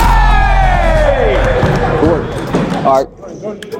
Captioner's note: dunk sound; cheers